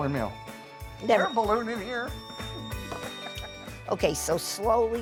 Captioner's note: kettle whistles